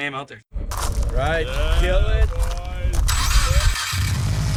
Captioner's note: engine revving